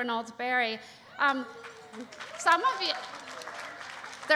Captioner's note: applause